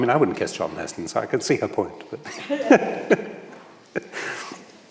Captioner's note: laughs